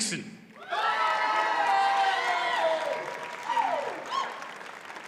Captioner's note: audience cheers and applauds